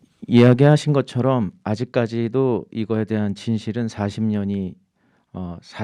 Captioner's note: speaking in Korean